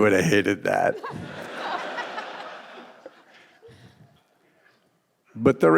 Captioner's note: audience and panelists laughing